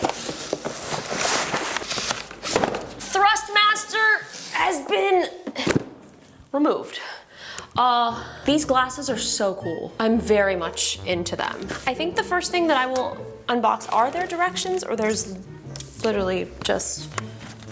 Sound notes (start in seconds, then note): 0.0 box rustles; 2.4 box thuds; 5.4 box thuds; 8.4 playful music